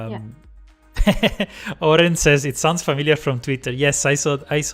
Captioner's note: laughs